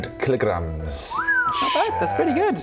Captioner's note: impressed noises